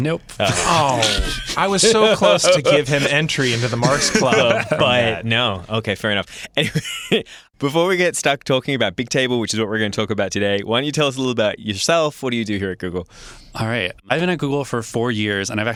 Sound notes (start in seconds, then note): 0.4 chuckling; 6.7 laughs